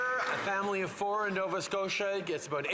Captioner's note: some Applause